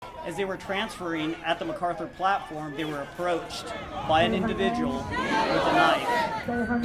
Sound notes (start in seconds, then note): 0.1 police sirens wailing